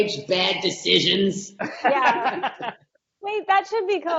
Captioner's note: laughing